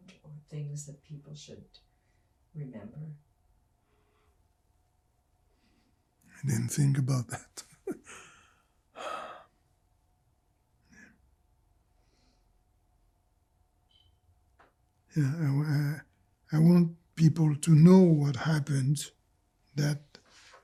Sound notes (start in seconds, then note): 7.0 laughing; 8.9 sighing